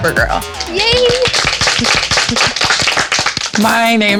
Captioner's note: clapping